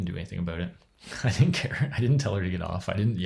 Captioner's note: chuckles